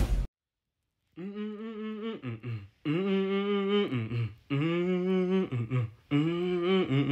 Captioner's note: humming a song that's stuck in my head